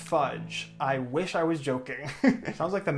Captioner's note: laughs